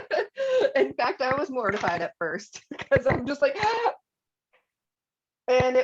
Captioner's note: laughter; gasp!